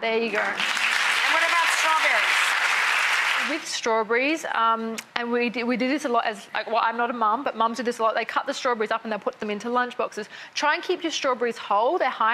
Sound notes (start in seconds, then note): 0.2 audience claps